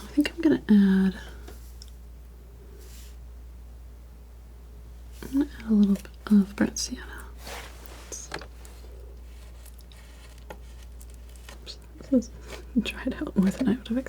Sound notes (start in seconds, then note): 7.3 scratching